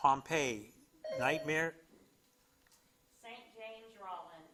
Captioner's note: bell dings